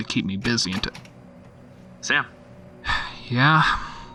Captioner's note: door opens